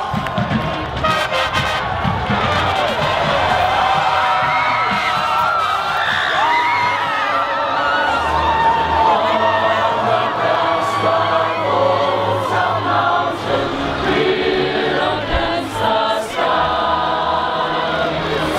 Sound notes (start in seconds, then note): 3.8 cheering; 8.9 choir singing